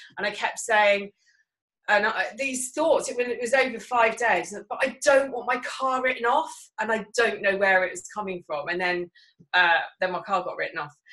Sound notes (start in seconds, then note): none